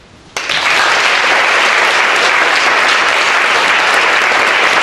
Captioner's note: audience applauds